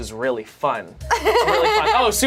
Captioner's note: laughs